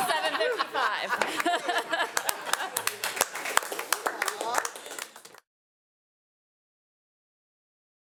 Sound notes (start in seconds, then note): 0.0 laughs; 3.0 all applauding